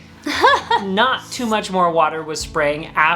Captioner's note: laughing